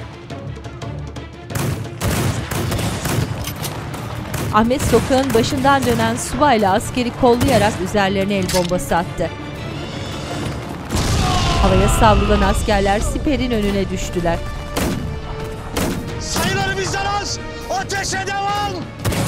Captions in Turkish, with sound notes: (Silah sesleri) (Patlama sesi) (Çığlık sesleri) Sayıları bizden az. Ateşe devam!